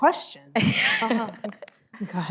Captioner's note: laughs